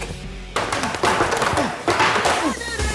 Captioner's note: hammering